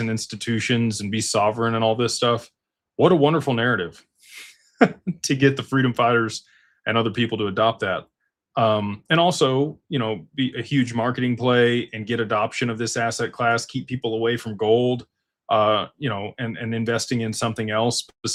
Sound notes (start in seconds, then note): 4.8 laughter